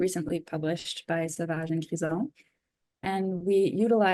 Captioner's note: speaks in foreign language